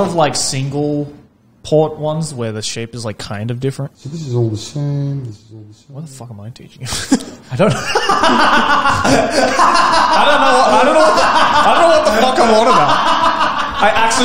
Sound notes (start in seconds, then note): 6.9 laughs